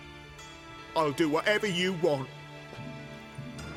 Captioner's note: fearful